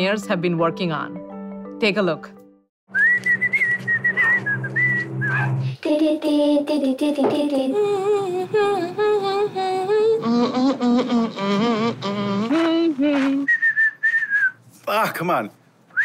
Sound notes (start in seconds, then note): 2.9 whistles; 6.1 scats; 8.4 hums; 10.6 hums; 13.4 whistles